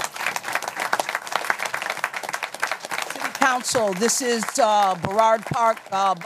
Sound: applause

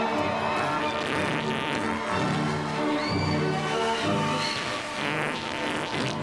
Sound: squealing, laughing

